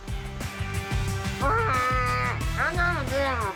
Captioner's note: gentle upbeat music; imitates velociraptor roaring